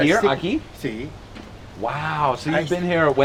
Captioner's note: non-english speech